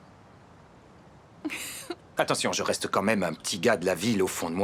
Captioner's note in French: chuckles